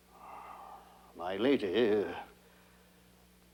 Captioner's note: sighs